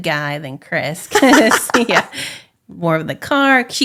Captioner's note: laughing